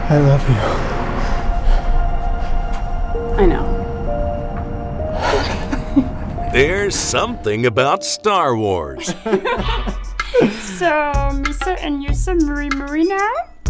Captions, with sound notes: I love you. I know. (Crying laughter) So… messa and yousa mooie mooie now?